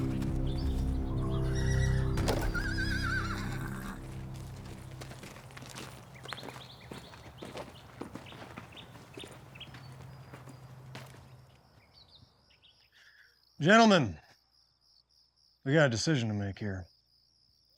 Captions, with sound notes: [FOOTSTEPS, HORSE NEIGHS] GENTLEMEN... WE GOT A DECISION TO MAKE HERE.